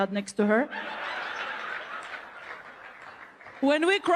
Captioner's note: crowd laughing